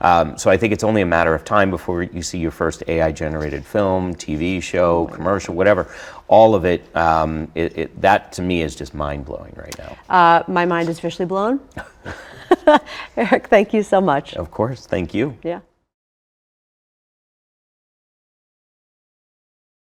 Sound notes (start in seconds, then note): 11.7 laugh